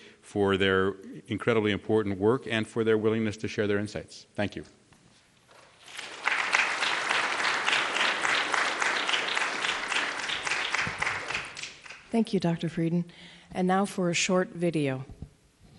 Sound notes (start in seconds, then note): 5.8 applause